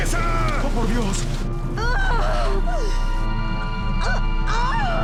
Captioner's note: yells